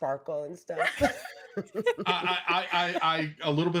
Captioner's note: laughs